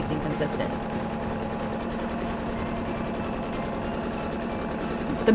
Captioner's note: sewing machine hums